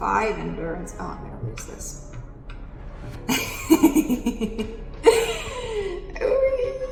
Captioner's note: laughs